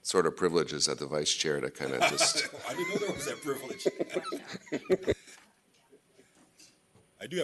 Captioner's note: laughter